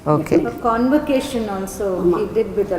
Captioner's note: in Tamil